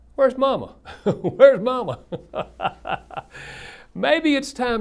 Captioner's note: laughs